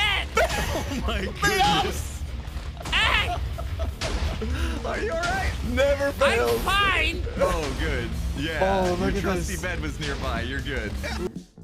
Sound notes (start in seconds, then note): 2.6 laughs; 3.5 TNT noises and laughing